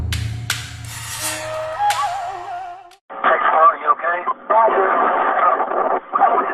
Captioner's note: soldiers speaking over a radio call